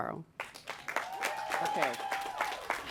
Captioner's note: applause